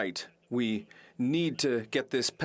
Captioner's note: speaking French